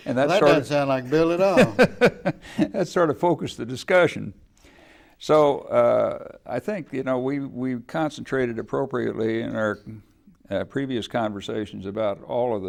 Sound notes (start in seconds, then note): 1.1 laughing